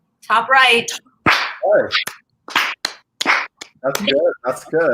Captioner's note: clapping